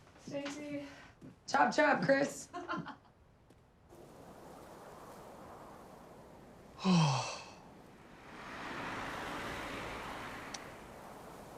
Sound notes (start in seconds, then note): 2.1 Naomi laughs; 6.8 yawns; 8.6 car engine whirs